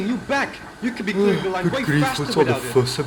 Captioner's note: Donald yawns